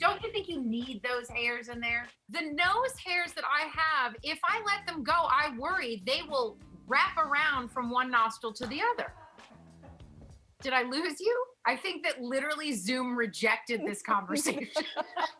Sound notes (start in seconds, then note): 9.4 laughter